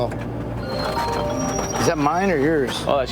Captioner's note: phone rings